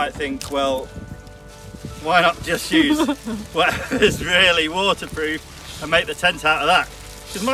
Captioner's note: laughs